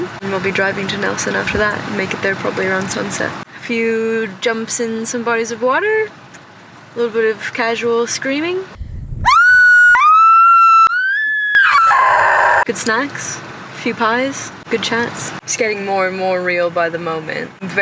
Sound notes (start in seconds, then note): 9.2 screaming